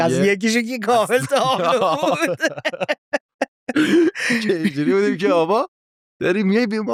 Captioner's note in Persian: خنده